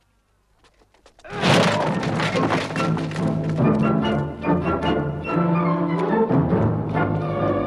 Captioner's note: guard groans; door slams